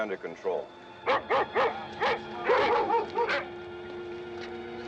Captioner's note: barking